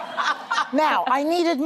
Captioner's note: laughter